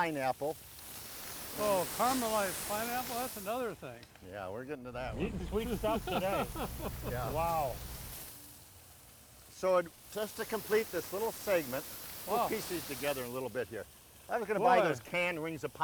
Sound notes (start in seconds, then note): 0.0 pineapples sizzling; 5.1 laughing